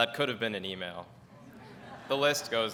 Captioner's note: audience laughs